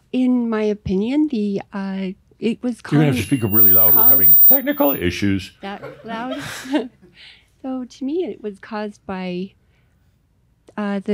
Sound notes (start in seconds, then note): 3.0 some mic feedback